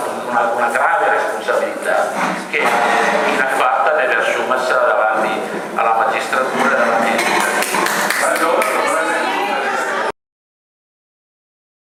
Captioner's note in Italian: Applauso